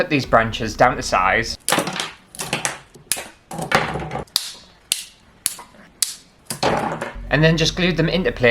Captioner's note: snapping Branches